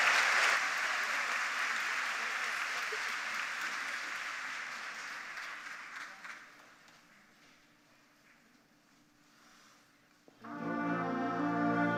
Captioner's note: applause